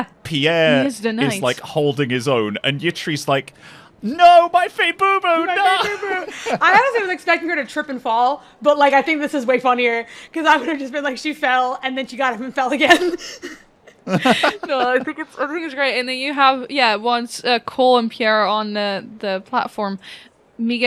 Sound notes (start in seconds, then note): 5.5 laughs; 13.9 laughs